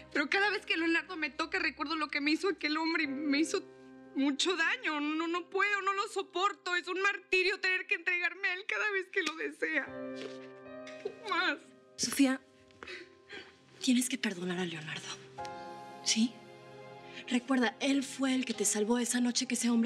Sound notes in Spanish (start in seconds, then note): 10.3 murmulla entre dientes